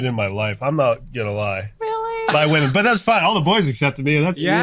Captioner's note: group laughs loudly